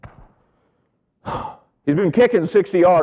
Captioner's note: sighing